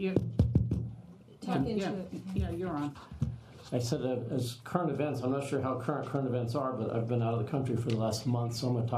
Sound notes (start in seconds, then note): 2.1 adjusts microphone